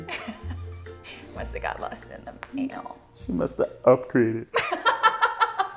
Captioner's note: laughs; laughing